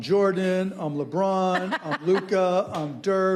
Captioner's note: laughing